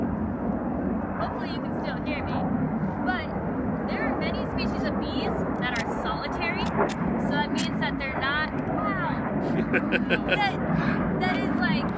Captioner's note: planes still noisy